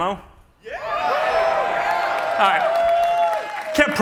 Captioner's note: cheering